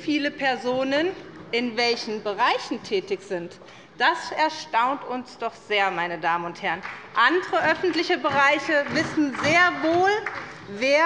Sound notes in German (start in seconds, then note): 6.8 Beifall bei der SPD